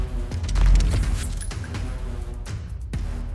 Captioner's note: bell jingles